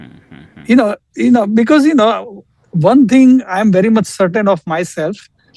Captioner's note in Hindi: गला साफ़ करने की आवाज़